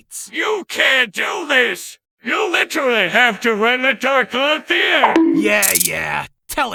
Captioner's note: Plankton Voice